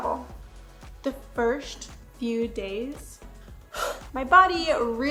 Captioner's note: exhales loudly